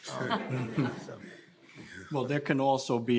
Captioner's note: panelists laughing